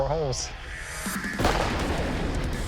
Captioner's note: gunshot